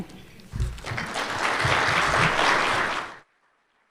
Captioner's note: applause